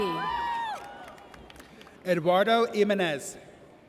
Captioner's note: audience cheers